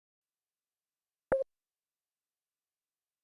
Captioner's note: beep